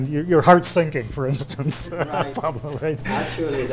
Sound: laughs

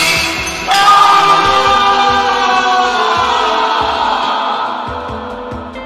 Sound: screaming

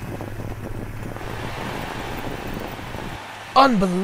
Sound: crowd cheering

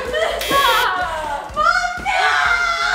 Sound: buzzer

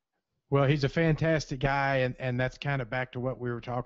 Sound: voiceover

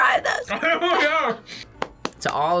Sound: laughs

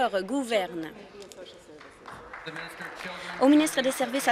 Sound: applause

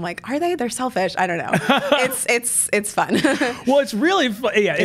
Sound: laughs

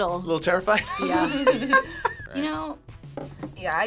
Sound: group laughs

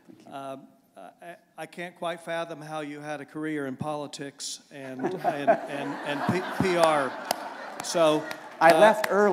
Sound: laughter

